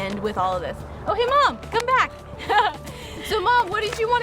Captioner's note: laughs